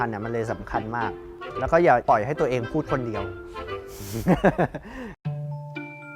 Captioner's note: laughing